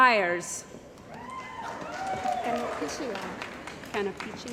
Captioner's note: cheering & Applause